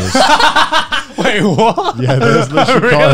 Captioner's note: both laugh